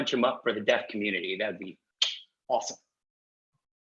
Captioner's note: clicks tongue